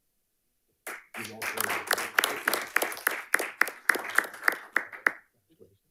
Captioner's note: panelists applauding